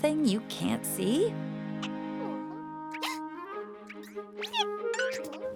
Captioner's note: caterpillar noises